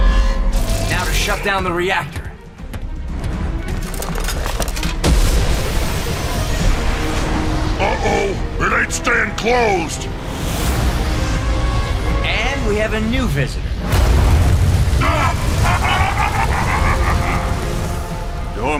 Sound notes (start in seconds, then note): 5.0 boom; 13.9 rumbling; 15.0 laughs evilly